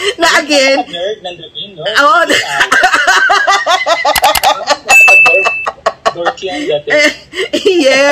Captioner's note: laughter; laughter